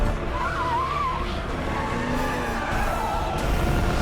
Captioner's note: tires screeching